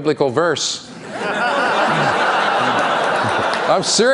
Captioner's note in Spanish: Risas